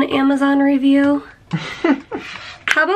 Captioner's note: chuckles